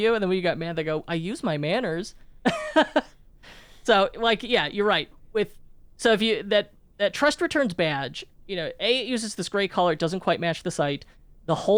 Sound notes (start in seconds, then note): 2.4 laughs